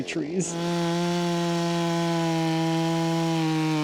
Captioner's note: saw buzzing